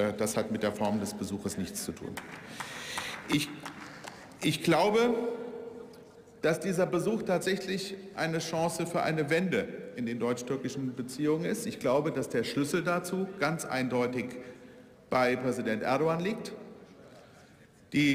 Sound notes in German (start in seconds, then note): 2.0 Beifall